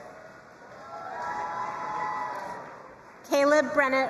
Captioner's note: crowd cheering and applauding